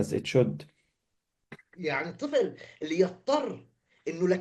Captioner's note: speaking arabic